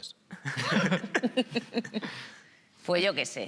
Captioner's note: laughs